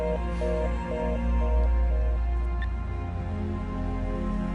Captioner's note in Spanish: Sonido de teléfono descolgado